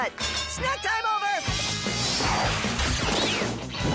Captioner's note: jet-packs whoosh